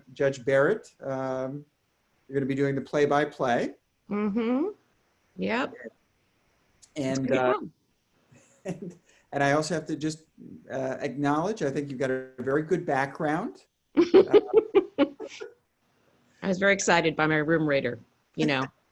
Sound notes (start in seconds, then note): 14.1 laughs